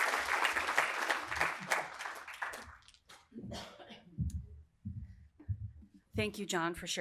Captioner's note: applause